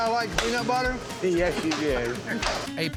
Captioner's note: laughs